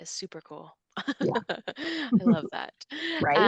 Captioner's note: chuckles